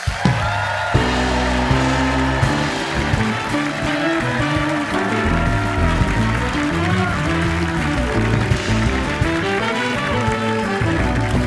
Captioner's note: cheers and applause